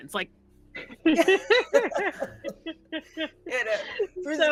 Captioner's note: laughing